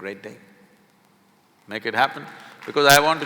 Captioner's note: applause